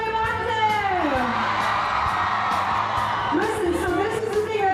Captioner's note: cheering